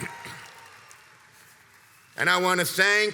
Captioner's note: crowd cheers and applauds